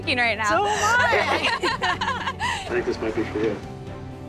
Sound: laughing

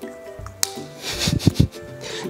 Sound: cold laughter

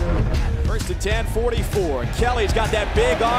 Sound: voiceover

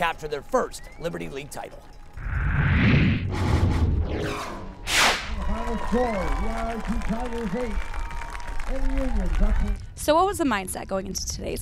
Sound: cheering

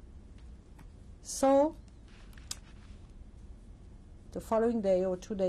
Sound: pauses for 3 seconds

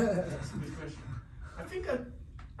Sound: laughing

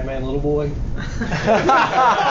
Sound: many talking and laughing

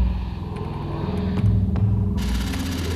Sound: fingers tapping; computer clicking

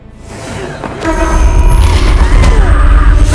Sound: artifact pulsates

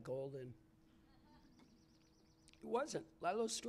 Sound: laughter

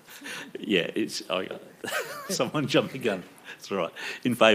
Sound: chuckles

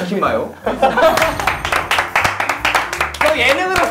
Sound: gives unending applause to 10 points laughter

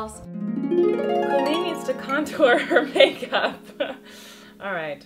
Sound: laughing

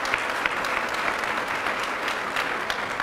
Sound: applause

